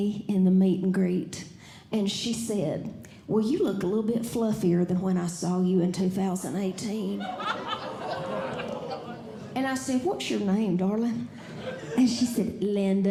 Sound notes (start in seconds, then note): 6.9 audience Laughing; 7.3 audience Groaning; 11.4 audience Laughing